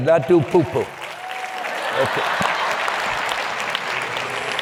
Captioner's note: laughing